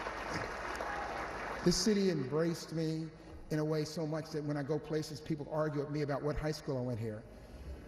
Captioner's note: applause